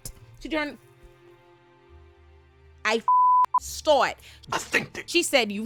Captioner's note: beep